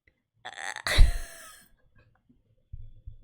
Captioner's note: laughs